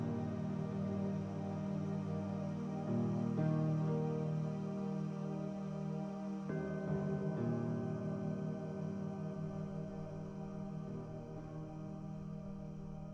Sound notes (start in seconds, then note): 6.6 church bell rings